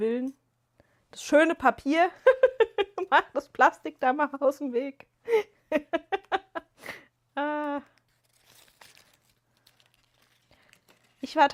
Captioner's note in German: gelächter